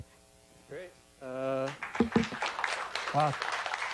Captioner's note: applause